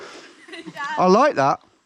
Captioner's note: girl laughing